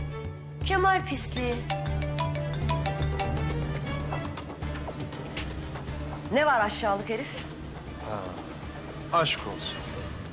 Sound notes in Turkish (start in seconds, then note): 1.6 Telefon çalması